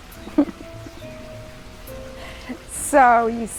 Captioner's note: giggle